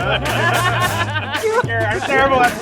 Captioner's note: laughs